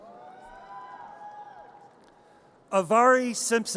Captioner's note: audience cheers